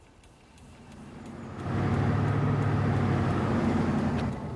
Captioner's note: truck rattles